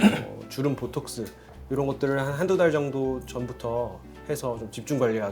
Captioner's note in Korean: 목을 가다듬음